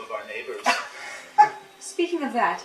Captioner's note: Colleen chuckling